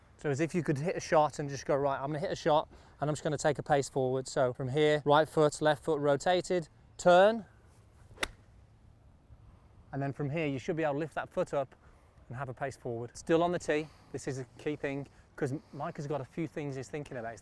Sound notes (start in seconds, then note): 8.0 golf swing swoosh